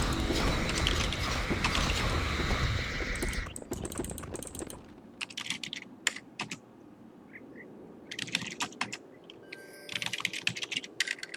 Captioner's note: typing sounds